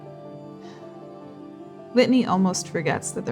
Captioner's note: quiet sighing